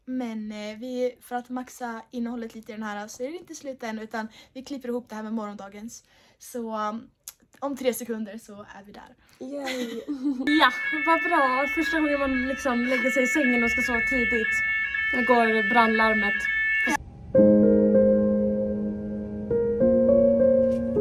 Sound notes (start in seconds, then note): 10.4 fire alarm sound; 17.2 calm music playing